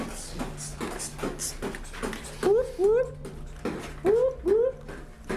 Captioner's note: Michael-Paul beatboxing